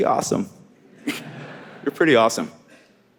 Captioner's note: audience laughing